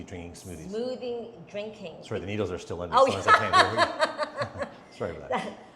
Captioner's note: laughs